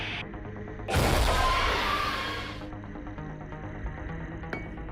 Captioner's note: demogorgon screeches